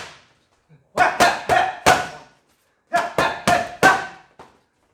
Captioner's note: exclaiming